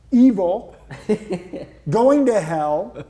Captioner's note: laughs